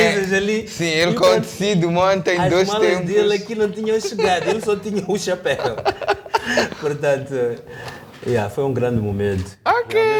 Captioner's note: laughter